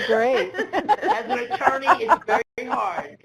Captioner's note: laughs